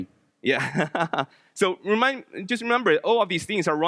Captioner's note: laughs